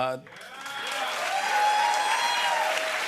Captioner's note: cheers and applause